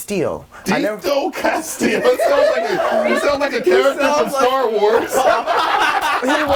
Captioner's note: overlapping chatter and laughter